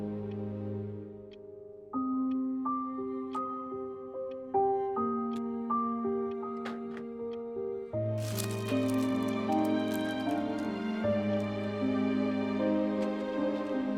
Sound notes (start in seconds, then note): 2.1 gentle music continues; 8.2 rosary rattling